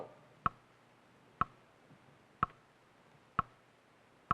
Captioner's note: clock ticking